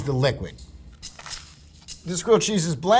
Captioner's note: rattling; sandwich rustling